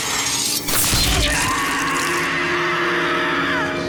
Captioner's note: screams